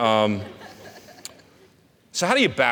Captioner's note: audience laughing